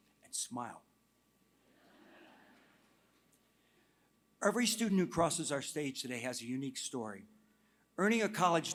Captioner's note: laughter